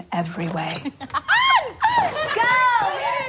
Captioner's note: women laughing